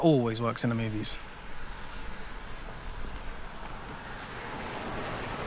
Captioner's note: birds chirping